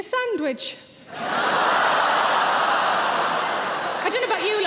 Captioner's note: audience cheering